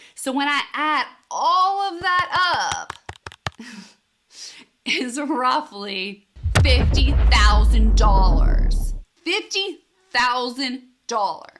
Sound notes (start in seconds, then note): 6.4 explosion booms